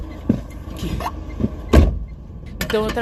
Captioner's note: door closes